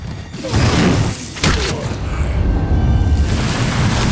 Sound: lasers whoosh

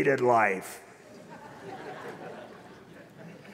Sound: laughter

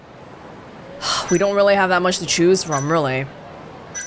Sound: sighs

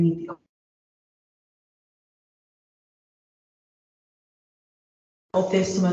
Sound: audio lost

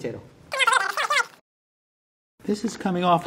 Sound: fast-forward squeaking

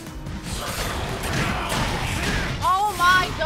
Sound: Garchomp growls

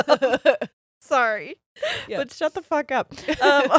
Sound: both laughing

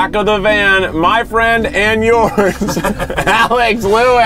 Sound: both laughing

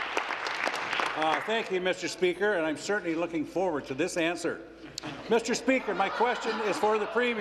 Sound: applause

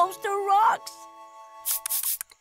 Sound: swooshing

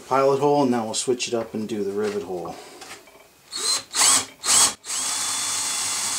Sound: drilling

